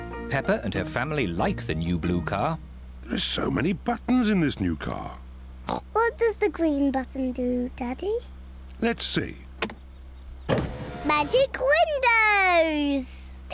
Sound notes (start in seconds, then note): 5.6 oinks